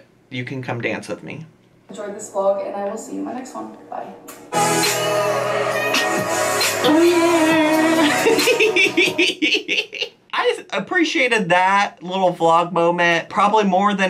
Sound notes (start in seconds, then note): 3.6 upbeat music; 7.6 laughing